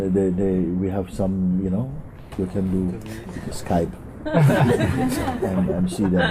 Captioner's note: laughter